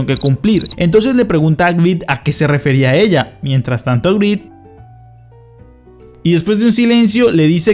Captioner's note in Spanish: sonidos de grillos